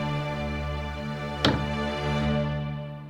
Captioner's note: cabiner door closing